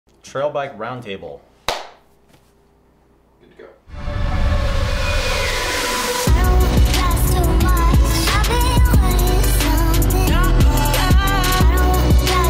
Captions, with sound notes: - Trail bike round table. (claps) (upbeat music)